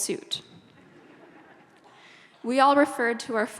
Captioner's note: audience laughs